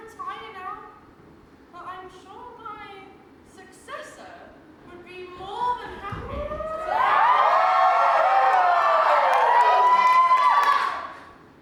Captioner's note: audience cheers, someone shouts GO PIXEL!!